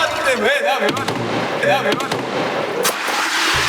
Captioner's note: Memukul lagi